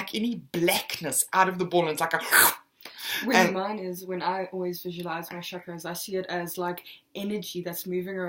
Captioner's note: slurp